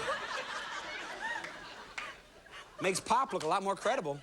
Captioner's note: laughter